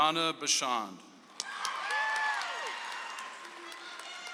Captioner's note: audience applauds